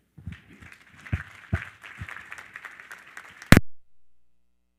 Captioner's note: all applaud